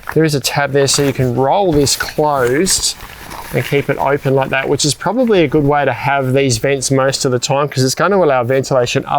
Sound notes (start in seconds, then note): 2.8 fabric crumpling